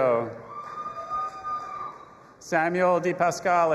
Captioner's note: audience applauding and cheering